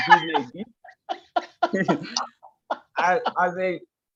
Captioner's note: laugh